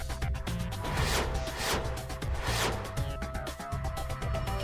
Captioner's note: sophisticated music; whizzing